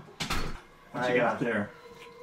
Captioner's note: door closes